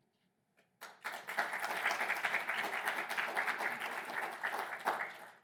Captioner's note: audience applauding